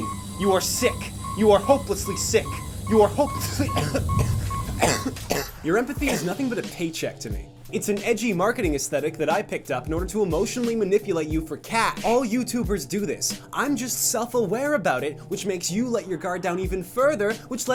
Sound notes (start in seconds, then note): 2.9 coughing